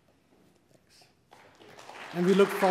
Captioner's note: applause